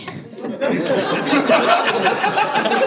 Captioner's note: laughter